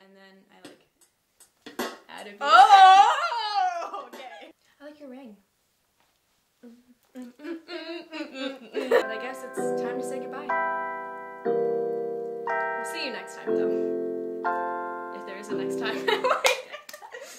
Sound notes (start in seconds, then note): 7.1 hums; 8.8 playing piano; 16.0 laughs